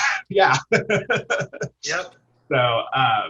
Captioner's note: laughter